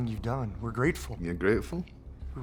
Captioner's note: scottish accent